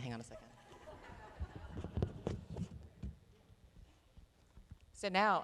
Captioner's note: laughter